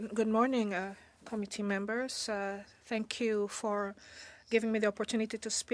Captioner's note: speaking French